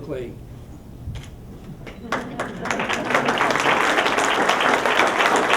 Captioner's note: applause